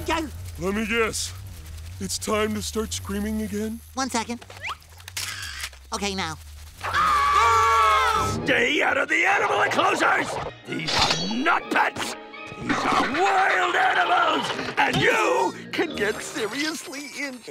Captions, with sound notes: Let me guess, it's time to start screaming again? One second. [camera shutter clicks] Okay, now. [screaming] ...Stay out of the animal enclosures?! These are not pets! These are wild animals! And you can get seriously injured.